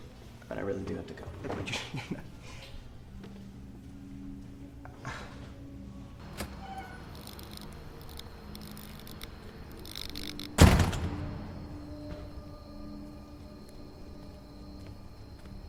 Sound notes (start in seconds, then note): 6.2 lights buzzing; 10.4 door slamming; 10.6 insects chirping